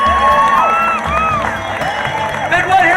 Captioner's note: audience cheering and applauding